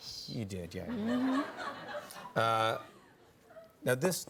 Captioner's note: laughter